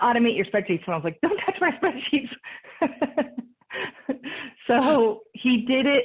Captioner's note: laughs